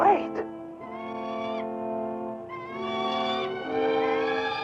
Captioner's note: bird squawking; tense music continues